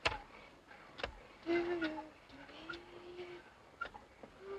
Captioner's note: Anne humming